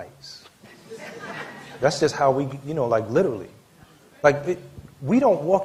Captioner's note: laughter